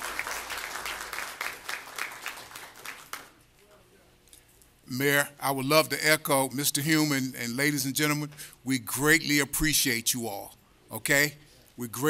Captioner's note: applause